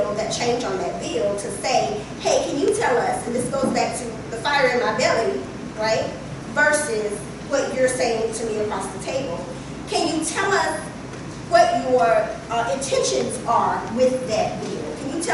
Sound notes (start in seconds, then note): none